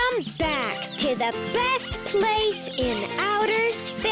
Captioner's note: animals squeaking; upbeat music